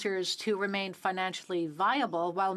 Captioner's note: speaking French